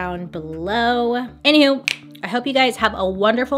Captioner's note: finger snap